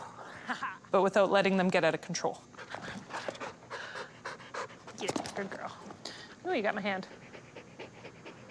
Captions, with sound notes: but without letting them get outta control. (Radical panting) Get it, good girl. Oh, you got my hand.